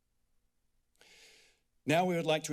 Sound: pause; inhales deeply

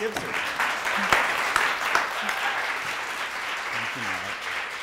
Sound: audience applauding

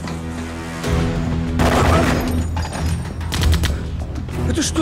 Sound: gunshots

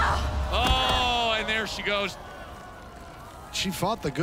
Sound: thud

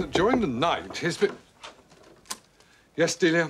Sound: knocking

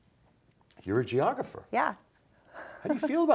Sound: chuckling

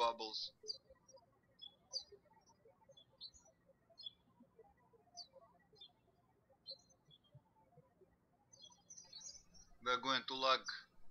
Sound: birds chirping

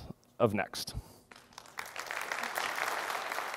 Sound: applause

